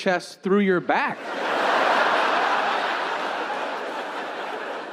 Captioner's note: audience laughing